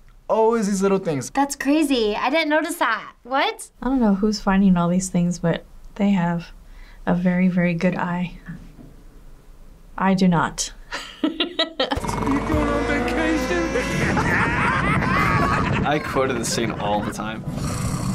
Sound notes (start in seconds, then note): 11.0 laughs; 14.2 cars laughing derisively